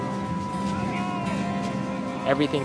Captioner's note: sailors shouting